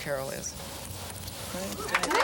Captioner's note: cheering